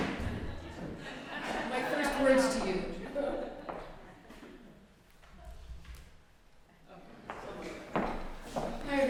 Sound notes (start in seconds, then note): 0.0 laughter